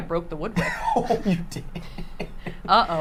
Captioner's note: laughs